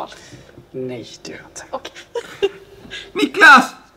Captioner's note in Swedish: fniss